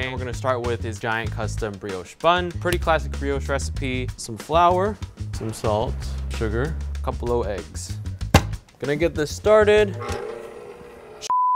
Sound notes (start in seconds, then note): 8.3 metal snapping; 9.9 metal whirring